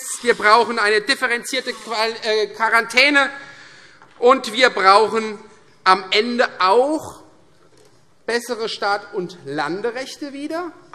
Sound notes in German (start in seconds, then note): none